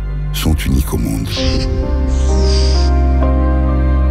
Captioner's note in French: Chants de dauphins